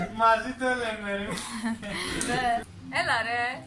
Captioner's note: laughter